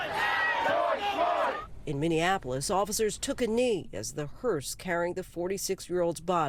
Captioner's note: crowd chanting